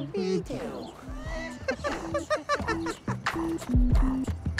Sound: laughs

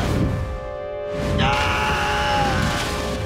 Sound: screaming

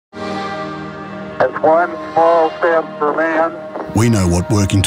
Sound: recorded voice can be heard "It's one small step for man"

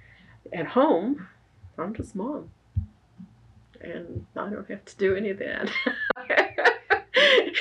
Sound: laughs

